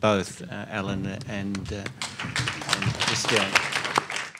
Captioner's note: many applauding